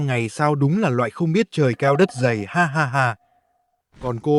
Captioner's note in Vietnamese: tiếng cười